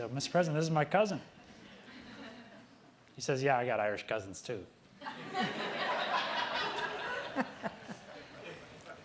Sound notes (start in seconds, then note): 1.6 audience laughing; 5.0 audience laughing